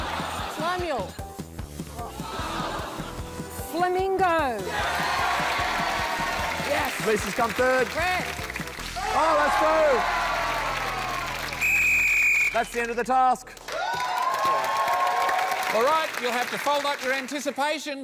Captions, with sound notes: Slamuel. Flamingo. [CHEERING, APPLAUSE] Yes. Lisa has come third. Oh, that's through. [BLOWS WHISTLE] That's the end of the task. Alright, you'll have to fold up your anticipation